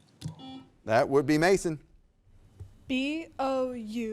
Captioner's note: buzzer beeps